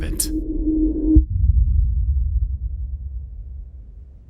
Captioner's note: rumbling sound